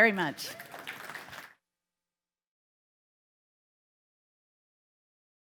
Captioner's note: audience cheering and clapping